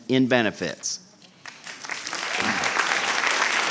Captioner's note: applause